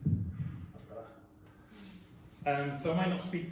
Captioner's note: adjusts microphone